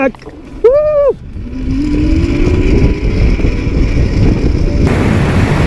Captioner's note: wind rushing